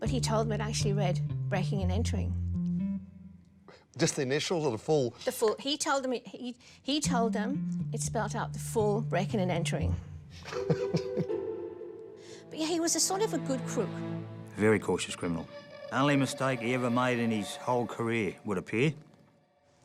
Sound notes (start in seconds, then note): 10.4 laughter